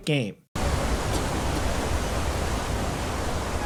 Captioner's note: water roars